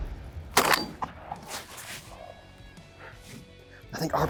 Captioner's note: gunshot